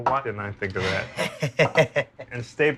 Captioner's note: chuckles